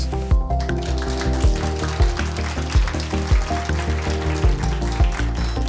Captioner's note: audience applauds